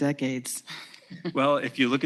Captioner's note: laughs